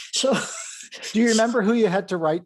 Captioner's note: laughs